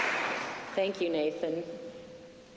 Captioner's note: applause